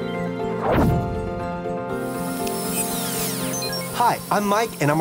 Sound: tinkling music; electronic whirring

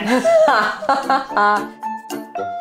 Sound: laughs; quaint happy music

